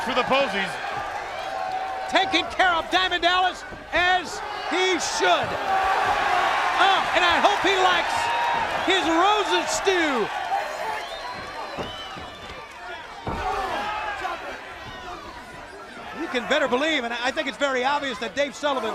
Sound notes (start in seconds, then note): 6.1 crowd cheering; 17.0 crowd chatter